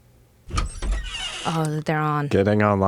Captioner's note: door creaks